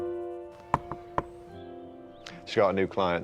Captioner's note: hand knocking on door